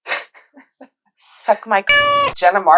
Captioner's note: meow